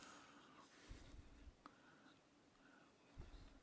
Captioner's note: speaking indigenous language